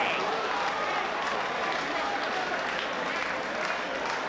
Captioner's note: spectators exclaiming; spectators applauding